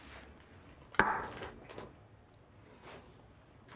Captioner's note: glass clanks